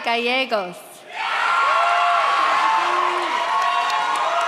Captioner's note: audience cheers